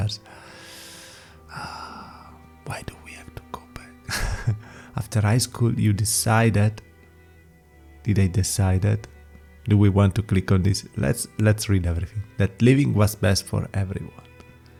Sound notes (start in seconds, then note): 1.5 sigh